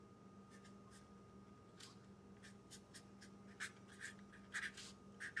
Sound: pen scribbling

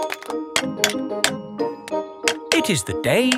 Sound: clanking

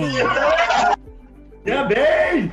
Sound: cheering

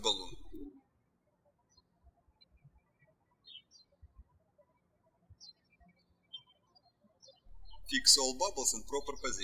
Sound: birds chirping

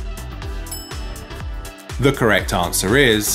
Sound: bell clinking

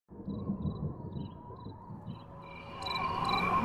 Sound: wind whooshing; insects chirping

